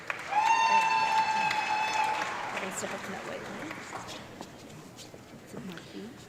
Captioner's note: audience clapping and loud cheering